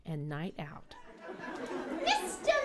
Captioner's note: laughter